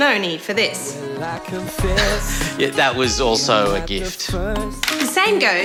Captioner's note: laughs nervously